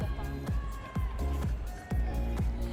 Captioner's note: audience members cheering